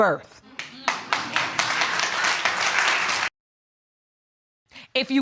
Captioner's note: audience applauds